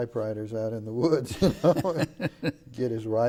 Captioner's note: laughing